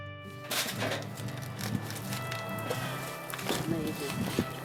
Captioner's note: Beetle clanking